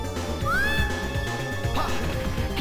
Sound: girl screams

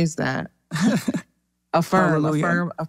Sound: laugh

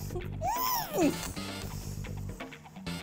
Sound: squeals in pain

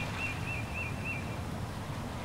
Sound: none

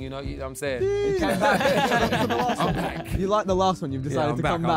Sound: Sidemen laughing

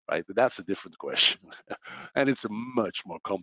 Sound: laughs

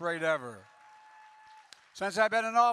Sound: applause

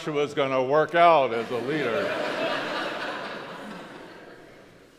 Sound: crowd laughs

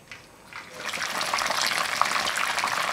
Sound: sizzling

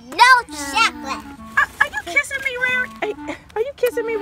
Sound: voiceover

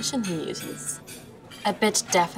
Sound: phone alerting

